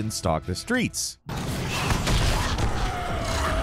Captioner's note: dramatic music; Volatiles growling; gun fires